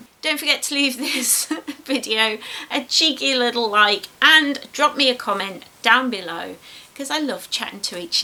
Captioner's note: giggles